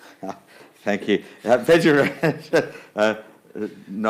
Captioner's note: laughs